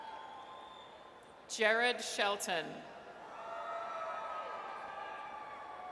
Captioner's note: audience cheers; audience cheers